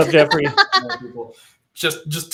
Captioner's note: laughter